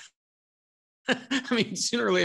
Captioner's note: laughing